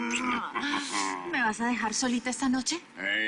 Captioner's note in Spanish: Ríe